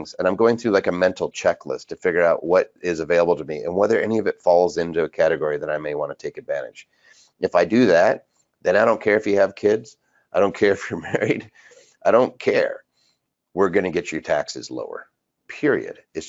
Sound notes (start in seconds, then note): 10.6 chuckles